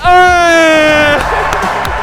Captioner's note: laughs; applause